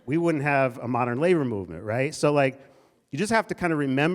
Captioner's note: none